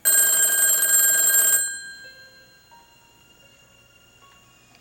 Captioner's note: phone ringing